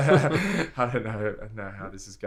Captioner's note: laughter